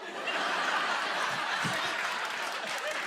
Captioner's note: laughter